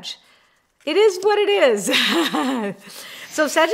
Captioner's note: laughing